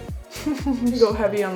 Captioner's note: giggles